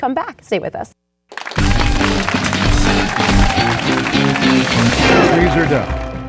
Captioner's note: clapping; upbeat rock music